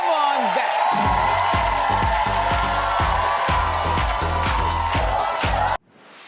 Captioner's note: audience cheers; upbeat music